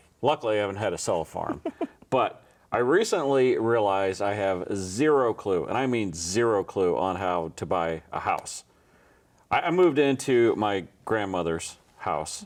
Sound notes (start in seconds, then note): 1.4 chuckles